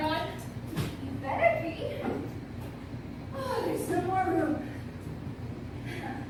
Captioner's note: sigh